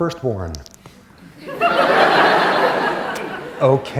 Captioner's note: laughter